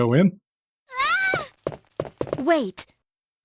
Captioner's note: screams